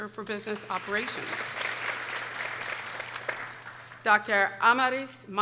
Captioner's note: people applauding